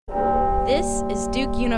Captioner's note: bell tolling